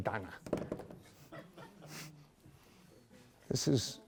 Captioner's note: laughter